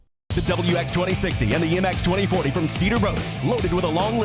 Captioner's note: voiceover